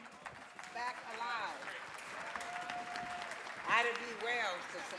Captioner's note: audience clapping